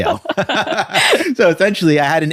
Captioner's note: laughs